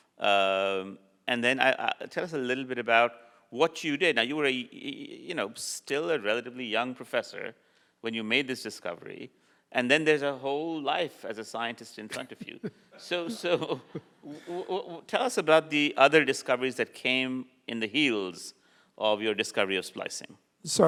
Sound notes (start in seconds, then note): 12.1 laughs